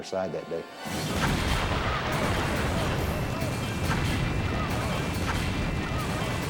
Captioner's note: fire booming; people clamoring